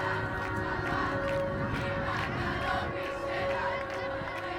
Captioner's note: rhythmic clapping